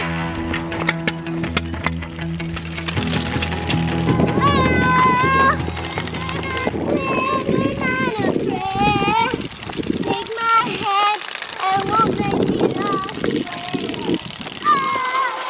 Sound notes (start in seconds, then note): 0.0 energetic music; 3.7 yells